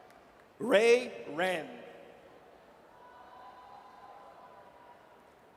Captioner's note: audience cheers